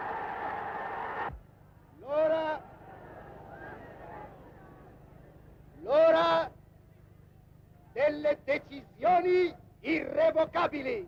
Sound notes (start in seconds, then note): 2.2 speaking in foreign language